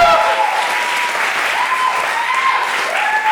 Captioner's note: audience cheering